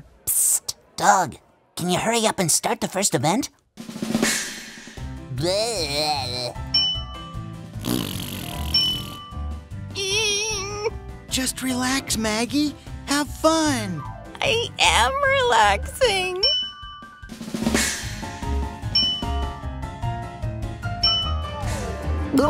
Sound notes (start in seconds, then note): 3.8 drum roll; 7.8 blowing raspberries; 8.7 ding; 16.4 ding; 18.9 ding